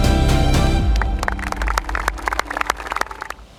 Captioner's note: birds chirping